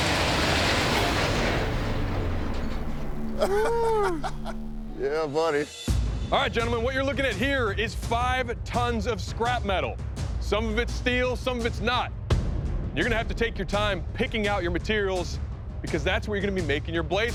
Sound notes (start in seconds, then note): 3.3 laughter